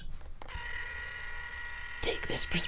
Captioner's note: whirring